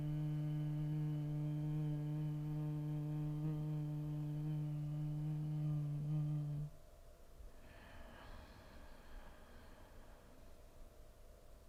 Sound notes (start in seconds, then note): 0.0 humming; 7.6 inhaling